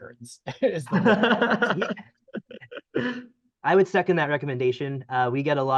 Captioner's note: laughter